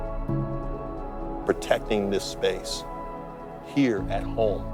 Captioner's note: voiceover